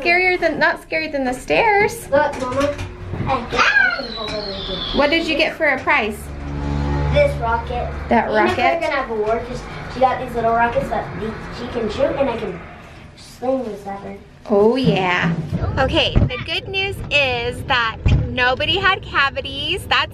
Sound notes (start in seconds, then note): 3.3 squealing